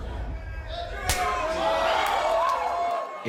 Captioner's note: people cheering; hand slapping